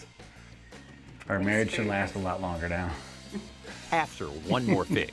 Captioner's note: laughs